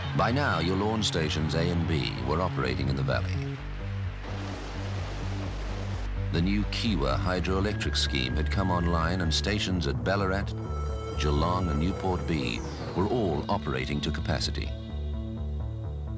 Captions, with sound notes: By now, Yallourn stations A and B were operating in the Valley. (water flowing) The new Kiewa Hydroelectric Scheme had come online and stations at Ballarat, Geelong and Newport B were all operating to capacity.